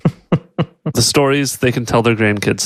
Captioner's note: laughs